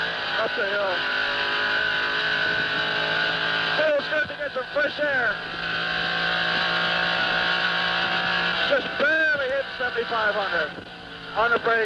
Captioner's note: engine noises